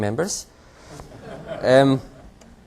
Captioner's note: laughter